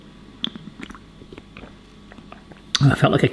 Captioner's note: swallowing